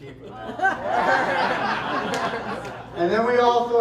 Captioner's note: laughter